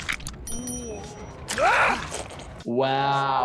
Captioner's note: blood sloshing; character screams